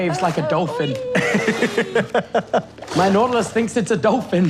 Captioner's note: laughing